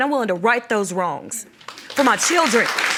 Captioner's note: audience applauds